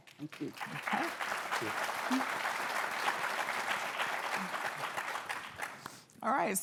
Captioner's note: applause